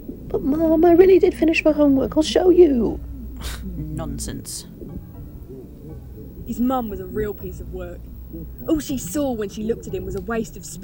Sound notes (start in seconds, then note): 3.3 scoffing